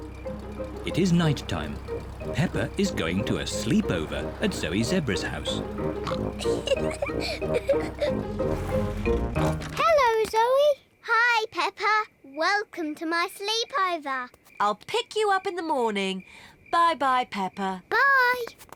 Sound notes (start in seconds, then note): 5.8 oinks and giggles; 9.1 oinks